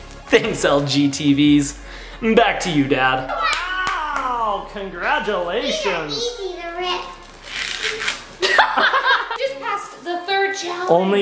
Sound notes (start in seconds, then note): 0.1 laughs; 7.0 tearing plastic; 8.4 laughing